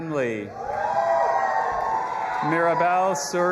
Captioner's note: audience applauding and cheering